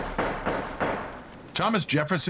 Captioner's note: gavel banging